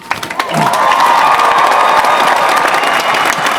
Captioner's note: applause